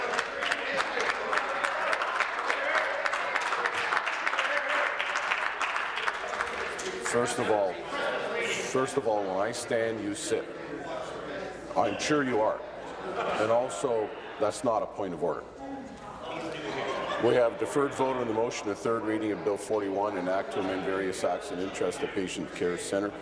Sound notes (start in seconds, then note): 4.3 applause